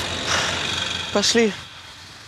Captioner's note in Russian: вздыхает